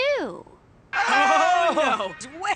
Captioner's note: scream